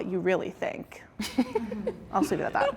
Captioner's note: contestants giggling